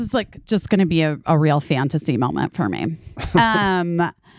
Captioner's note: chuckling